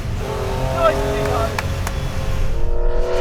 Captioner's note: claps